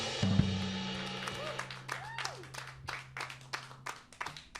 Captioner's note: applause